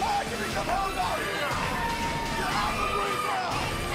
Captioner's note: crowd cheering